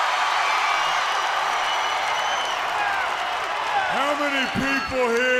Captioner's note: crowd cheering